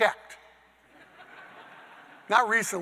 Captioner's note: audience laughing